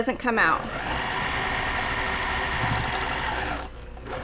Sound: machine whirring

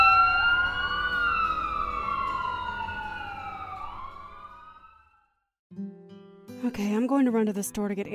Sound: ambulance sirens in the distance

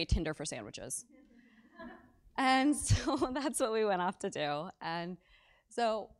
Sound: laugh

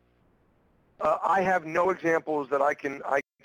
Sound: voiceover

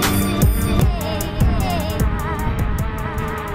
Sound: drones hovering

